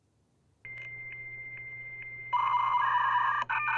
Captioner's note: beeping